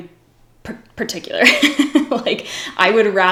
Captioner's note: laughs